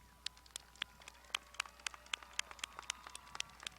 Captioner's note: crowd applauding